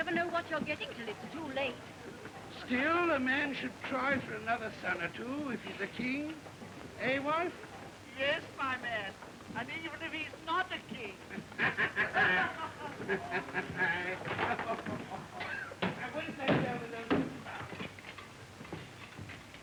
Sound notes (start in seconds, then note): 11.3 laughing; 14.3 kitchen workers chatter